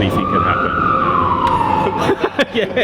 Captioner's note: police siren in background